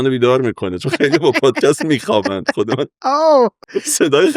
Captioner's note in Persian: خنده